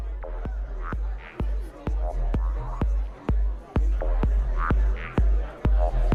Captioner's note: people chattering